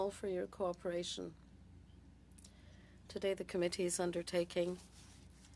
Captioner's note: speaking French